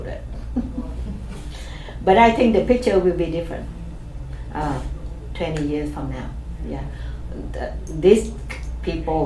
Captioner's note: chuckles